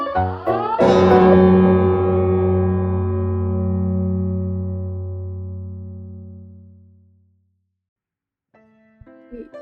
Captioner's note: extremely loud bell noise